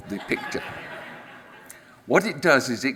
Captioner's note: audience laughs